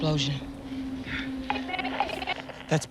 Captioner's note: broken up radio chatter